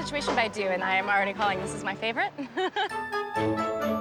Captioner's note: laughs